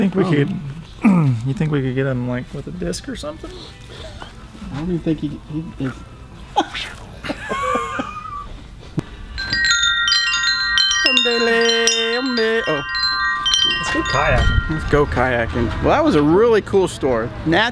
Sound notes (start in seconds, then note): 7.2 laughs loudly; 9.2 chimes ring